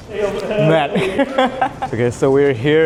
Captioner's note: laugh